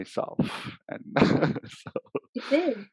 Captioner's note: laughs